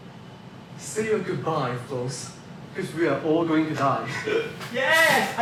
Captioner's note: nervous laughter